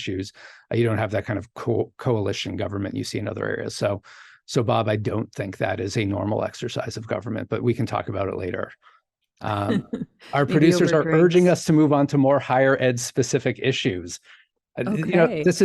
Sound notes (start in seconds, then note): 10.3 chuckles